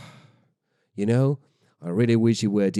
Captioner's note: deep sigh